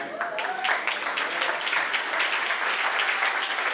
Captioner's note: applause